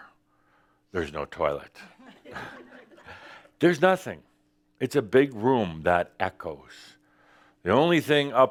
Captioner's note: a few chuckles